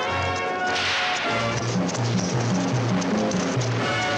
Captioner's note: whip cracks